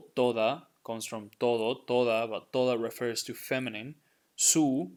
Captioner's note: speaking in Spanish